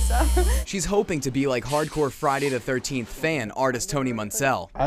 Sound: laughter

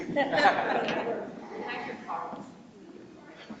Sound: people chuckle

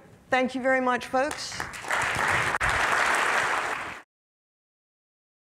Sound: audience applauding

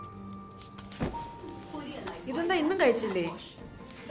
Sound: TV plays

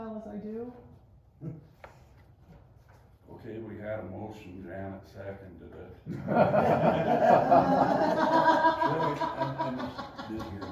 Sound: laughter

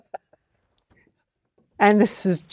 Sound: laugh

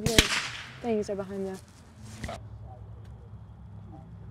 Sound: gunfire

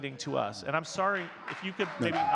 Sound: audience clapping

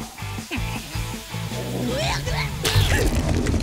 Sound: gasping

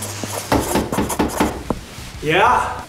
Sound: knocking

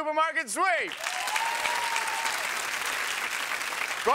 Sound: audience applauding

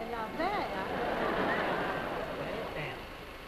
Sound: audience laughs

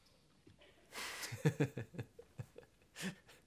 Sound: laughs

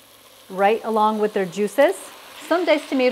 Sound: pan sizzling

